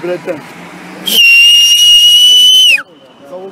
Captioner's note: whistling